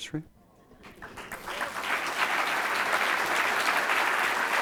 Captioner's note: audience applauds